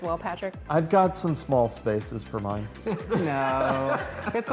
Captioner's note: laughter